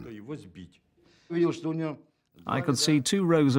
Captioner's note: speaking Russian